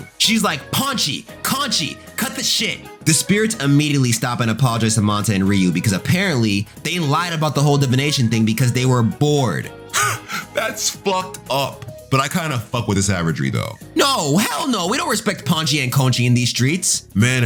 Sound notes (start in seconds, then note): 9.9 laughing